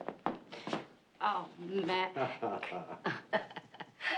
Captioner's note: chuckling